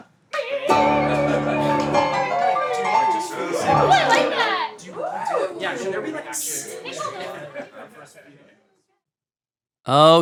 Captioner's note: everyone chatting